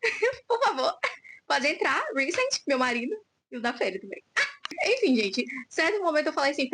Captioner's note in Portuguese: risadas